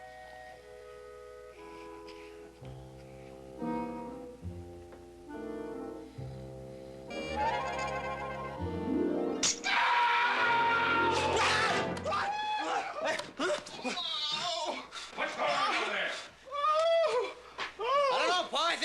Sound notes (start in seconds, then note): 9.4 snapping sound; 9.5 Hoss screaming; 11.6 screams; 12.9 Hoss moaning; 16.5 Hoss yelling in pain